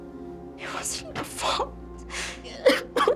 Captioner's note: voice breaking